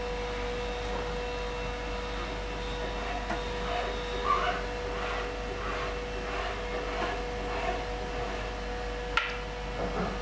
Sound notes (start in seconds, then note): 3.9 machine noise, distant sawing